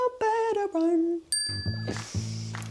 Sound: bell dings

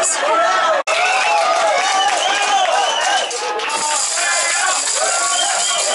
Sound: loud cheering

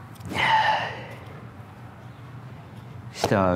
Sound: sighs

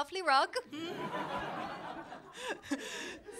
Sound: laughter

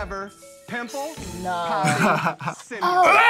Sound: laughs

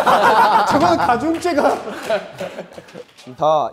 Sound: giggle

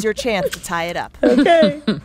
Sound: laughter

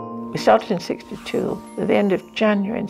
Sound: voiceover

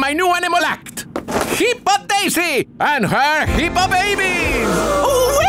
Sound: cheering

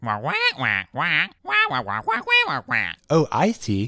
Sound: explanatory squawking

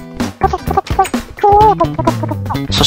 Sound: surprised reax

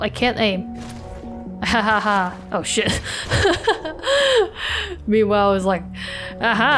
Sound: laughs

